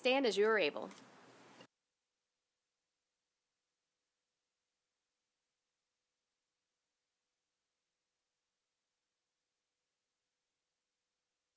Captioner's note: silence